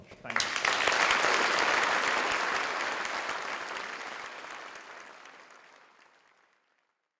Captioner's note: audience clapping